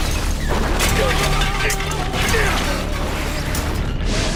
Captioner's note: yells